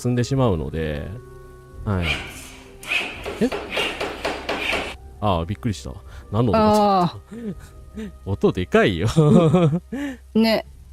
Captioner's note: laughs